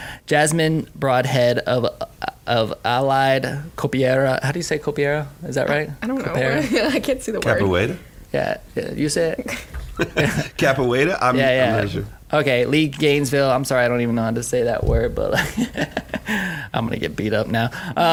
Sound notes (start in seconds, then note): 15.3 laughing